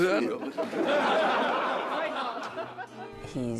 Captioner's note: crowd laughing